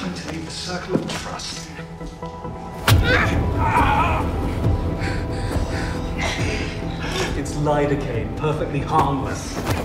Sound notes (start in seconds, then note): 2.9 groaning